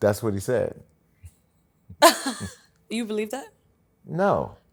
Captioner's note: laughs